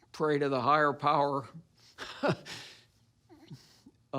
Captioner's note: laughs